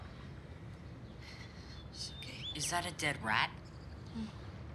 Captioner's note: sighs